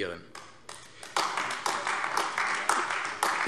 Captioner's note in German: Beifall AfD